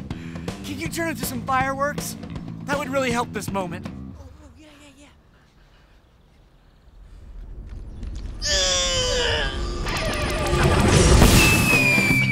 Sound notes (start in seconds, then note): 8.4 painful grunting